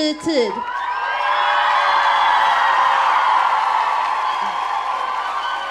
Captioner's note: audience cheering